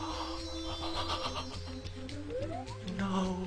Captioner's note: distressed gasping